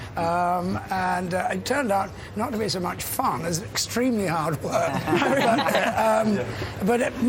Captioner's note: laughter